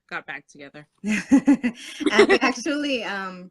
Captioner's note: laughter